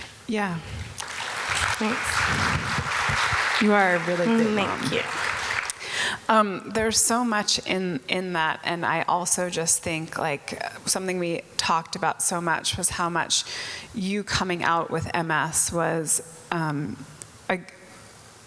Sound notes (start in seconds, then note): 0.9 audience applause